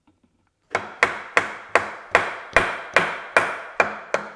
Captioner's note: hammering